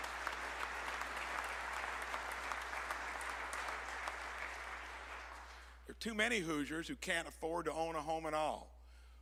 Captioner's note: applause